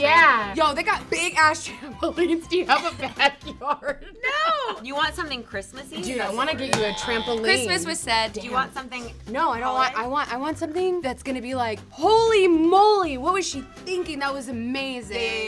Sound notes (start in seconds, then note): 2.6 laughs; 7.4 incorrect buzzer